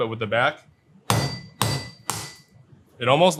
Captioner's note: cleaver clanging